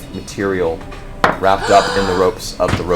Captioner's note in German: keucht auf